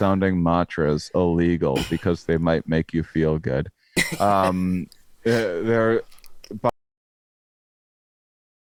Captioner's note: stammering